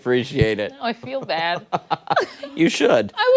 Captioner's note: laughter